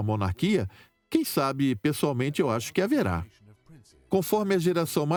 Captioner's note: voiceover